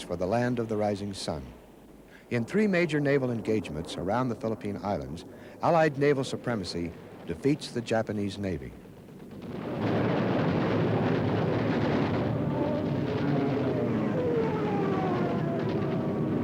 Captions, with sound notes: for the Land of the Rising Sun. In three major naval engagements around the Philippine Islands, Allied naval supremacy defeats the Japanese Navy. (gun pounds) (cannon blasts) (propellor buzzes)